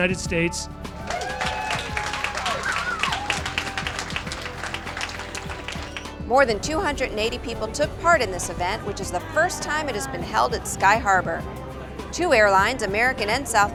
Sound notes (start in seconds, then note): 2.9 applause